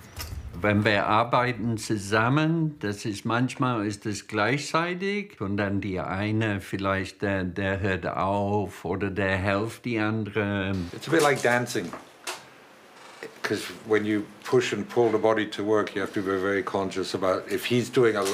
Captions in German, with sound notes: Wenn wir zusammen arbeiten, ist das manchmal gleichzeitig. Und dann der eine vielleicht, der hört auf. Oder der hilft dem anderen. (englisch:)